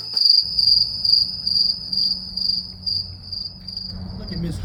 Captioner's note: crickets